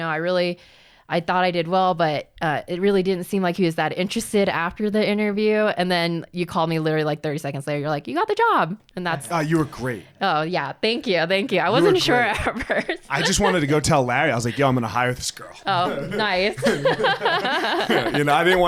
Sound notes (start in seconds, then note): 11.6 laughs; 15.7 both laughing